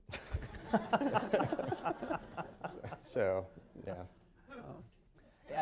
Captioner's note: laughter